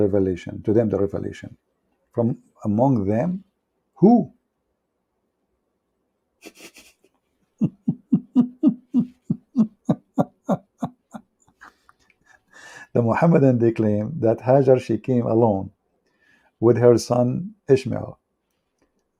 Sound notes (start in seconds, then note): 9.4 Ketawa